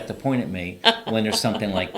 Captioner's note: chuckles